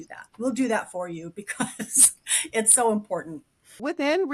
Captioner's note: laughs